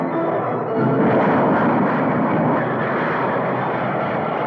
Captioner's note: engines roaring